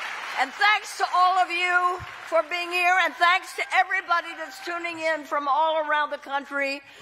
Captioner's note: cheering